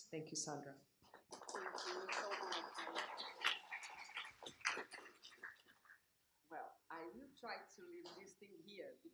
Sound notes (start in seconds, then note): 1.5 applause